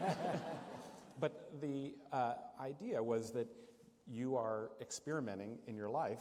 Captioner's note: laughter